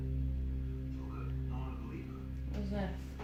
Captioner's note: TV broadcasting quietly